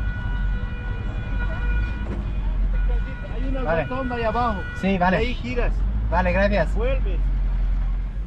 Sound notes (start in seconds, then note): 3.5 in Spanish